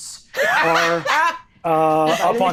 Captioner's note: all laughing